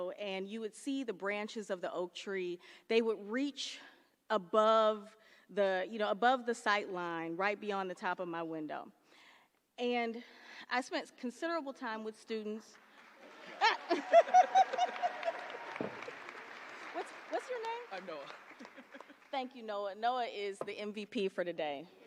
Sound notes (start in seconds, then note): 13.2 laughter; 21.3 applause